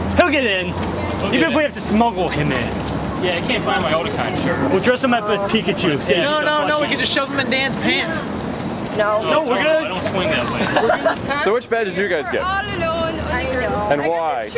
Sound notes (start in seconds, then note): 10.5 laughter